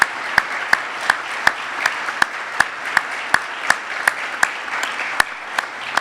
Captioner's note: applause